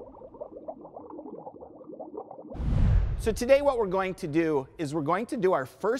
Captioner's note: bubbling sounds